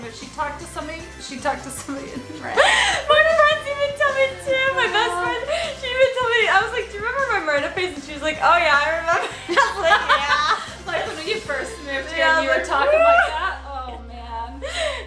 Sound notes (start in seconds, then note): 9.1 laughs